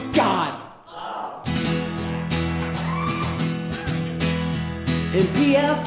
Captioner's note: yells; guitar strumming